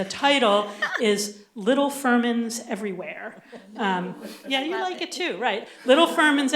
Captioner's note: laughter; laughter